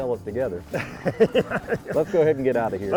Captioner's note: laughs